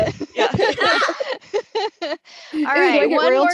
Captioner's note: laughter